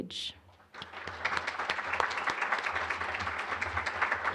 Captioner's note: applause